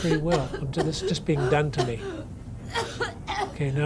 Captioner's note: coughing